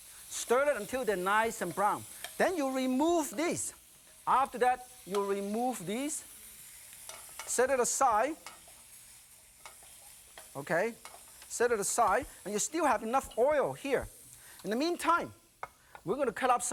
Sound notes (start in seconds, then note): none